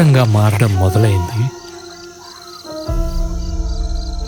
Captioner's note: jackals howling